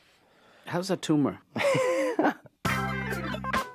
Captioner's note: chuckling